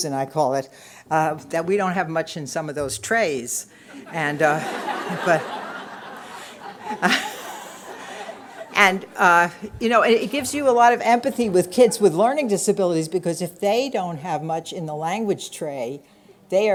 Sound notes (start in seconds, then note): 3.9 laughter